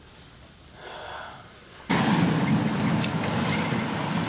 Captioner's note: sighing